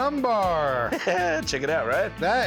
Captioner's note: laughs